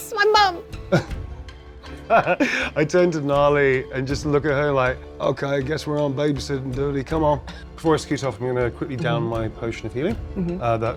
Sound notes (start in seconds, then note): 2.0 laughs